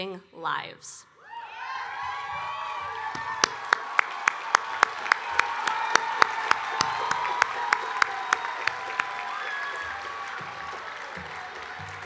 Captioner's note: cheering and Applause